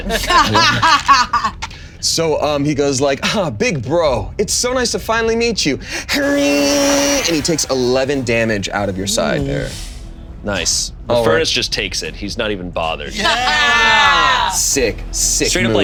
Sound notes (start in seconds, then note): 0.0 all laughing; 6.3 imitating buzz saw whirring; 13.3 laughs